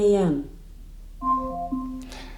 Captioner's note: alarm